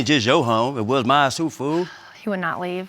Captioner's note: sighs